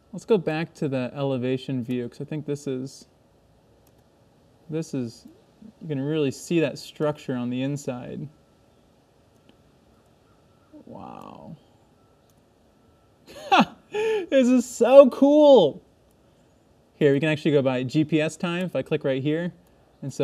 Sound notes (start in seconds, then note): 13.3 laughing